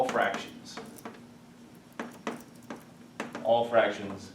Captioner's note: chalk clicking